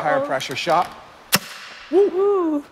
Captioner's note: poof